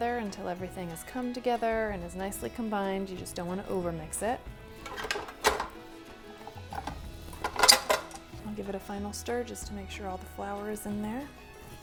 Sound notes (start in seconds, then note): 6.4 bowl rattles